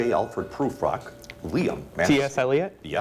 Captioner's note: ding